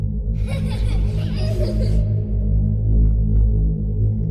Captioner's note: tense ominous music; child laughing